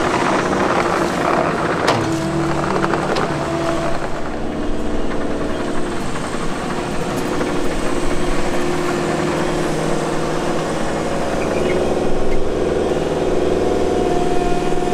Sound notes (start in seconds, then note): 0.0 crunching; 4.8 humming